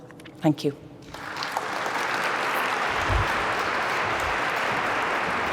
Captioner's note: applause